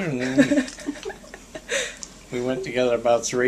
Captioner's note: giggling